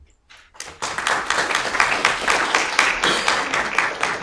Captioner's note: audience clapping